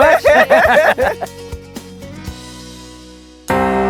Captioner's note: all laughing